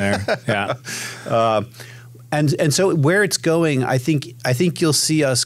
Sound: laughs

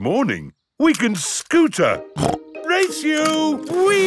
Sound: snorts

